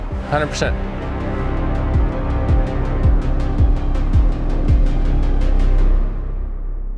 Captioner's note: suspenseful music; motor revving